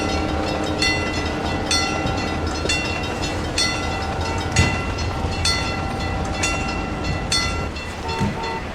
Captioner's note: wig wag ringing; ringing stops